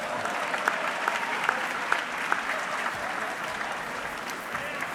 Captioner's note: audience clapping